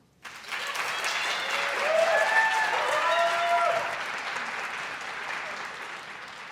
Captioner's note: audience applauds and hoots